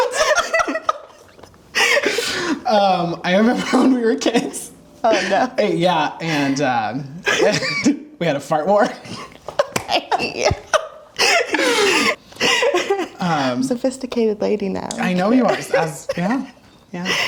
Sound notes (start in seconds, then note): 0.0 both laugh; 8.8 laughing